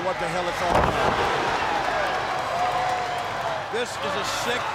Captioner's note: crowd cheering; body thudding